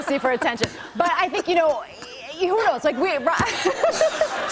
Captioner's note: laughs